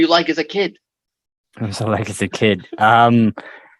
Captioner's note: laughter